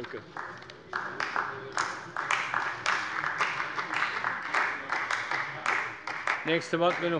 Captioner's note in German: Beifall bei der CDU und dem BÜNDNIS 90/DIE GRÜNEN